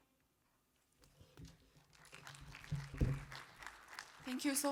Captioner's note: applause